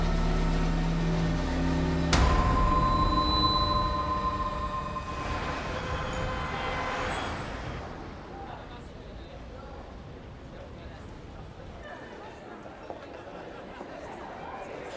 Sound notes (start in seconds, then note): 5.8 street noise; 12.4 background chatter